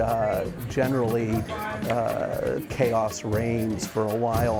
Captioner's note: chanting; clapping rhythmically